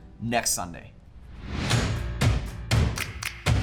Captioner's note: whooshing; upbeat music